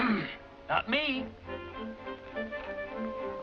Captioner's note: clearing throat